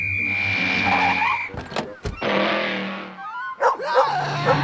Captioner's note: door opens, closes; barking